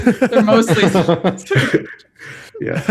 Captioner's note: laughter